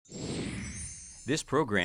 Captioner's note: chimes jingle